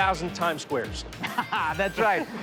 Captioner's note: laughing